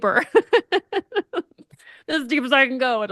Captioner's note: laughs